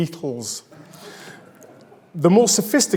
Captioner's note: audience laughs